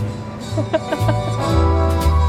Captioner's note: chuckling; upbeat music